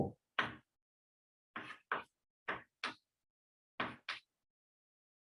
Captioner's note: chalkboard tapping loudly